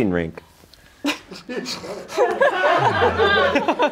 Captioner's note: laughing